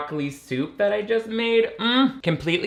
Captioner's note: moans